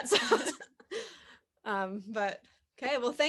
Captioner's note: laughs